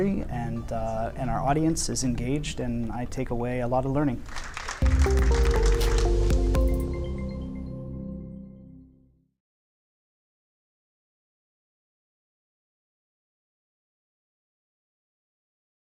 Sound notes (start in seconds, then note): 4.3 audience applause; 6.5 light electronic music